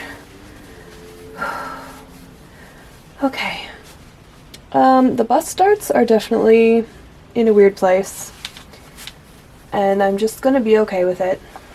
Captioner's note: slow exhale